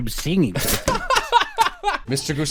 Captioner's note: laughter